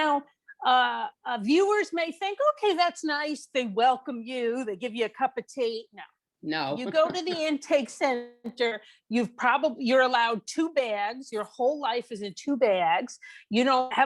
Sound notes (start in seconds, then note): 6.7 chuckles